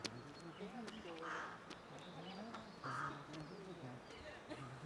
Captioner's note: feet stamping